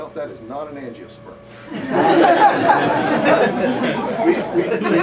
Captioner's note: laughter